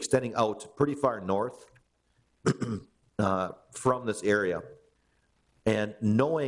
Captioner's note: clears throat